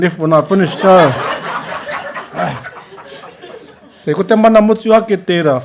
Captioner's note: laughter